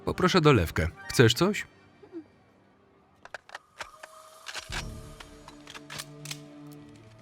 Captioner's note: guns cocking; suspenseful music